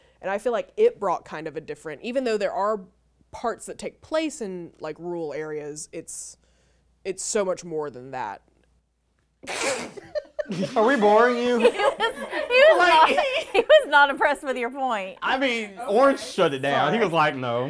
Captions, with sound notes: And I feel like it brought kind of a different, even though there are parts that take place in rural areas. It's so much more than that. (laughing) - Are we boring you? (laughing) - He was not impressed with your point. - I mean, orange shut it down. He was like, "No."